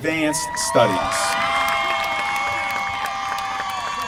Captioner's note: applause